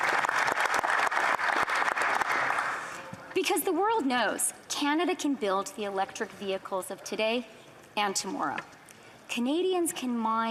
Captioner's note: applause